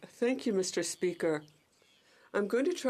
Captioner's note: speaking in french